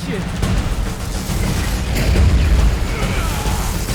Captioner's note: lightning crashes; Thanos yells